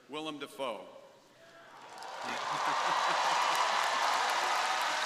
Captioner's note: crowd applauding